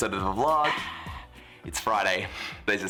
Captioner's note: exhales